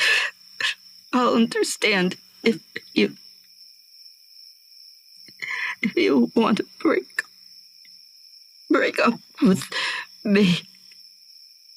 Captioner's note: crying